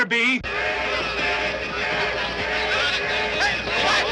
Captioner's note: alarm blaring; men shouting